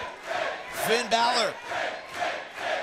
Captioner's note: crowd cheering